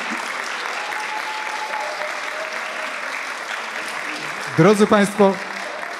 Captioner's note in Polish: aplauz